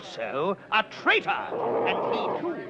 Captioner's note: Arrow growling